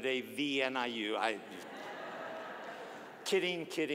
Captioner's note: audience laughing